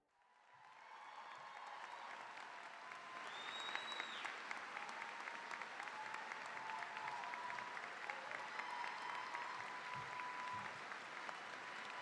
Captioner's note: cheering, applause